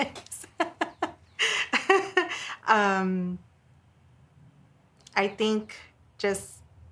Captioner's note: laughing